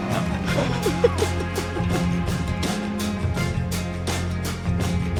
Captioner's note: giggling